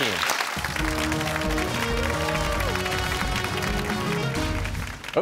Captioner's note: cheers and applause